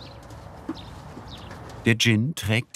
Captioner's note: birds chirping